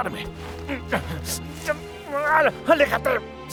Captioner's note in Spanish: El árbol cruje